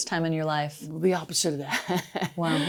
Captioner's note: laughs softly